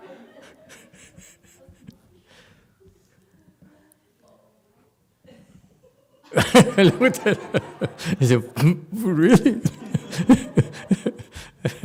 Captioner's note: laughs